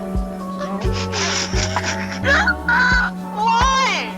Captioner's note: laughing